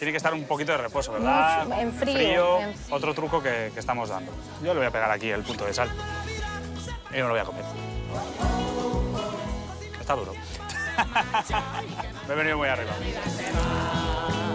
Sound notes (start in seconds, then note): 10.6 laughs